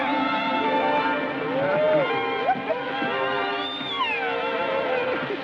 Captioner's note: giggling